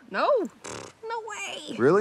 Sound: Moana blows raspberry

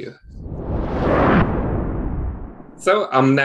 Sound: whooshing

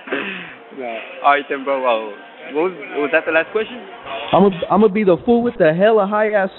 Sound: laughing

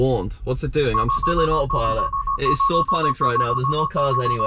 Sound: many tesla beeps

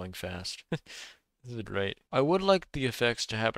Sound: laughs

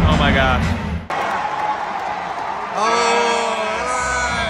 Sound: crowd cheering

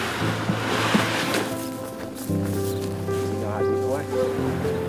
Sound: latch creaking; boat scraping; sorrowful music

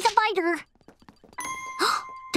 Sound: gasping

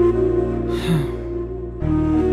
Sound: sighs

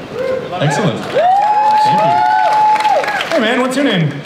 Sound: audience cheers

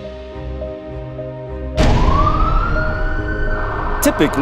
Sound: fire truck siren wailing

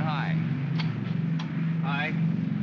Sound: switch clicks; aircraft rumbles

